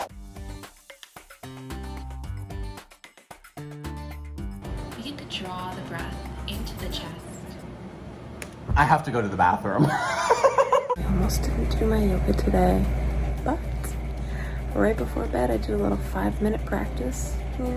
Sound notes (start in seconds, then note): 0.0 uplifting music; 9.8 laughs